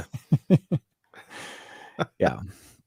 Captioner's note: laughing